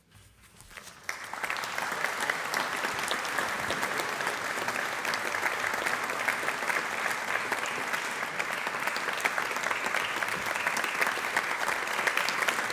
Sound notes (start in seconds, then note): 0.7 applause